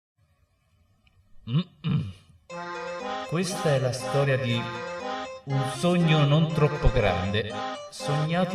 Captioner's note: coff